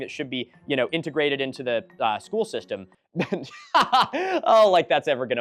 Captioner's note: boisterous sarcastic laugh